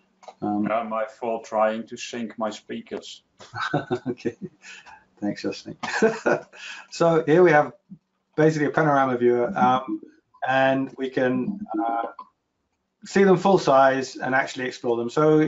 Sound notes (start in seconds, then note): 3.4 laughs